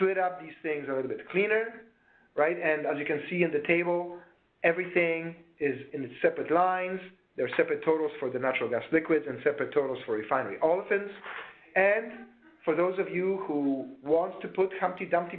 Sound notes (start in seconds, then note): 12.0 woman's voice in the background